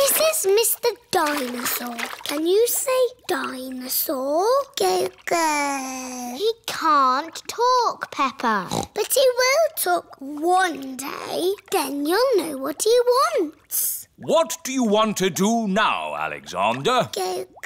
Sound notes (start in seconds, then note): 5.6 babbles; 8.6 snorts; 17.4 babbles